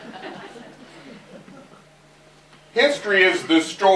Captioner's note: laughter